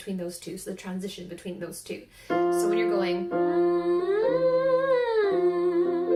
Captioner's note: humming